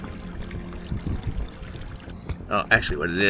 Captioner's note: water lapping gently